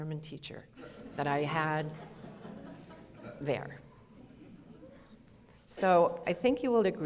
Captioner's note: audience laughter